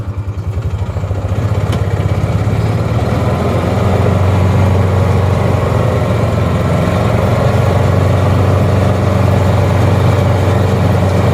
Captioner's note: motor sounds and music